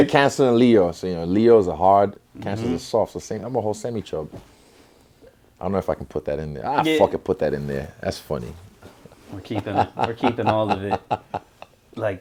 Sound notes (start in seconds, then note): 9.3 Israel laughs